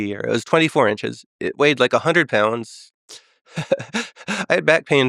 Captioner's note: laughs